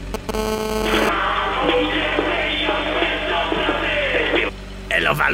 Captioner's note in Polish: telefon dzwoni